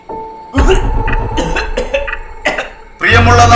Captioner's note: coughing